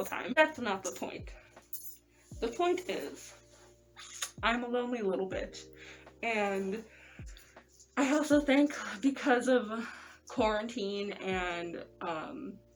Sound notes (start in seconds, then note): 4.0 lip smack